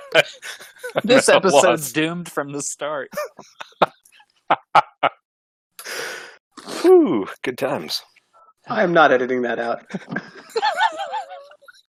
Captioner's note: laughing; laughter